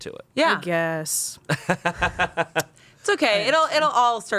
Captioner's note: laughs